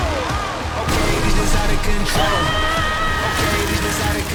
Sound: screams

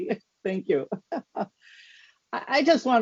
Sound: laughs

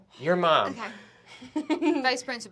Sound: laughter

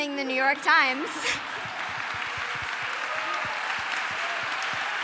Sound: applause

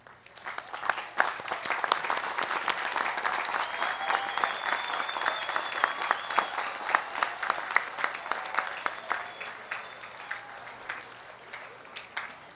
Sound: applause

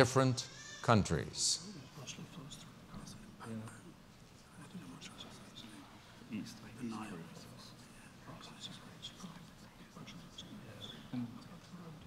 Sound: pause

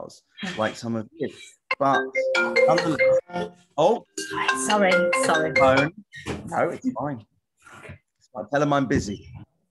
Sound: phone rings

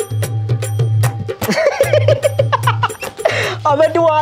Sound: laughing

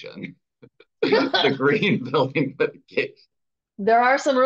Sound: chuckles

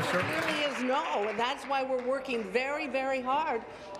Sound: applause

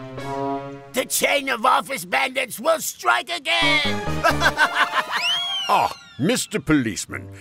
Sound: sneaky music; laughing

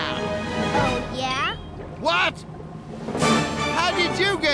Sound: none

